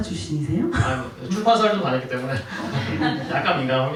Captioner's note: laughs